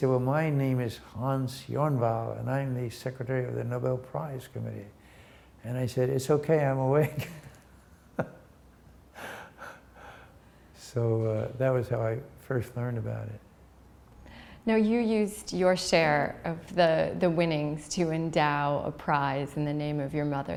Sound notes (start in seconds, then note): 8.1 chuckle